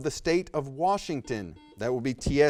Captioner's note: buzzer beeps